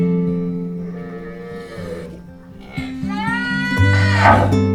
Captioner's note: cows moo